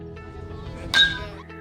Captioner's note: bat pings